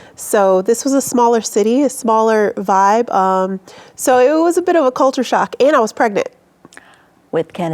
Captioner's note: none